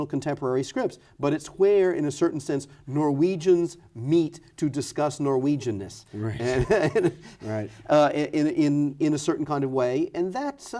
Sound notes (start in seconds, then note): 6.3 laughs